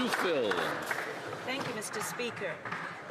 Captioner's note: some Applause